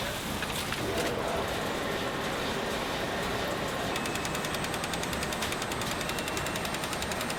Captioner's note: printing press whips; printing press whooshes